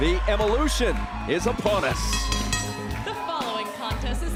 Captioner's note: bell ringing